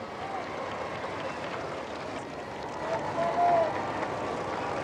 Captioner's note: scattered applause